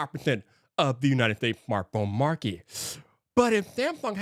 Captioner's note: inhales sharply